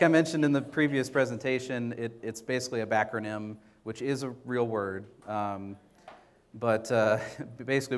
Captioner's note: chuckles